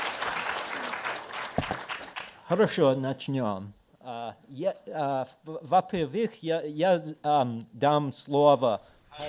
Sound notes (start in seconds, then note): 2.6 speaking in foreign language